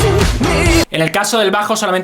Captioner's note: falsetto; natural voice